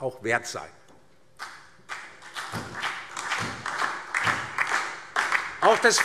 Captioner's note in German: Beifall DIE LINKE und vereinzelt SPD